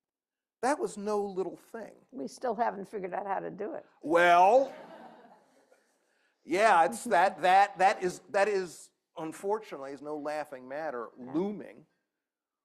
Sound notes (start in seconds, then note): 4.4 laughter